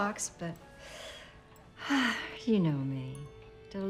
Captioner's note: sighs grandly